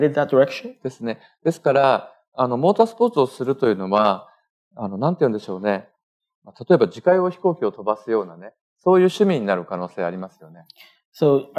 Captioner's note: speaking japanese